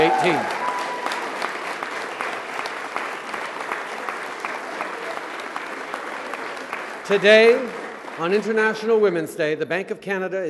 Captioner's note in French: Acclamations et applaudissements